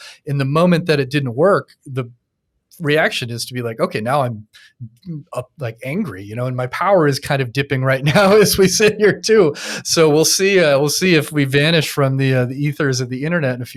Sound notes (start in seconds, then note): 7.6 chuckles